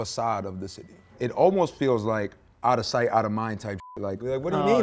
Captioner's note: beep